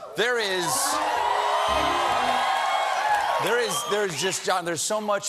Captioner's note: cheers and applause